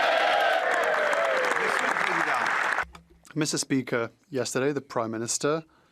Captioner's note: speaking French